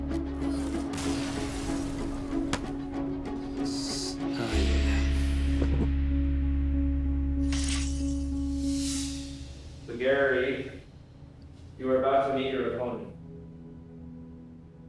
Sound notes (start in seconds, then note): 3.6 sighs